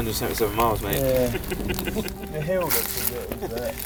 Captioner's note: laughing